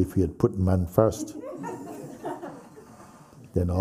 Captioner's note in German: Lachen